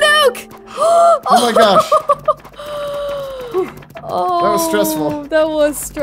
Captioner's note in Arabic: تضحك بعصبية